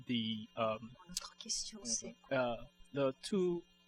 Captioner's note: speaking french